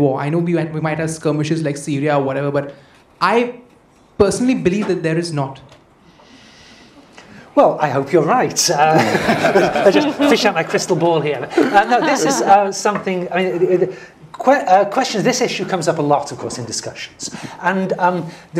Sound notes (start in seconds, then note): 8.8 laugh